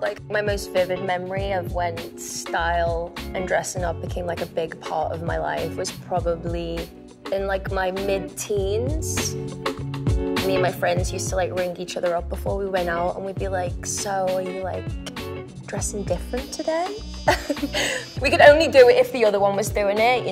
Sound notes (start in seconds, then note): 17.2 laughs